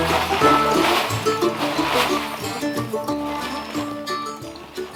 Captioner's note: tarp rustling